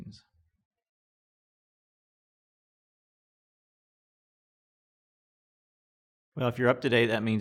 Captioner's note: silence